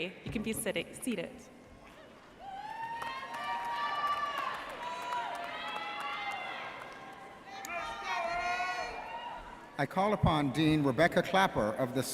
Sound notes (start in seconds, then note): 2.4 audience cheering and applauding